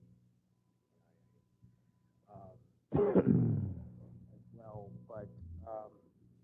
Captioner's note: cough